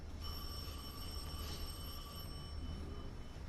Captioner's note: phone rings